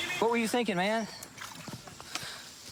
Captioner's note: splashing